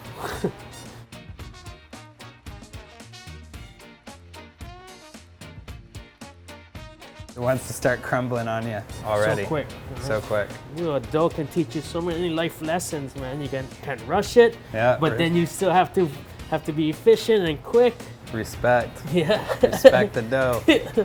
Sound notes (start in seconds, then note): 0.6 trumpet plays; 19.0 laughs